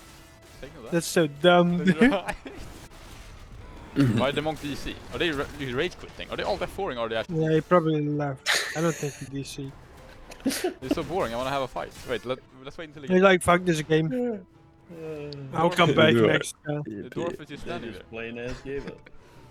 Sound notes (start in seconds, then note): 8.4 haha